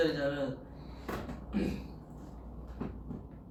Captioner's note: clears throat